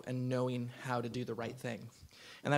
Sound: none

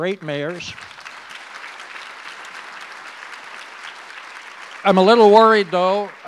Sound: audience applause

